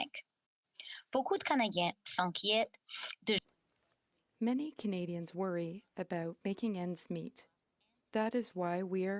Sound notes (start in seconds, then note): 7.1 speaking French